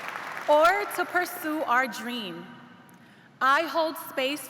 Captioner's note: cheers and applause